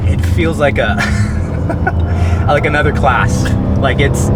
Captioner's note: laughs